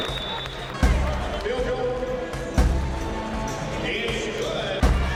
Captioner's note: cheering